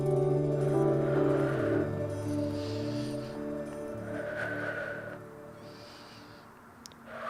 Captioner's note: inhaling and exhaling